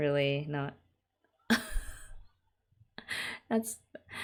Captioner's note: laughs